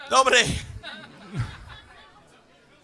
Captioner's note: laughs